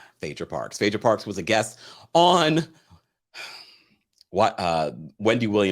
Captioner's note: sighs